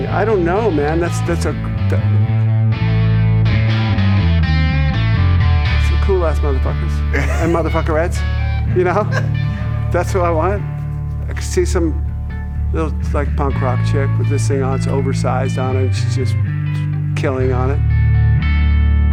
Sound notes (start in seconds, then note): 8.6 laughing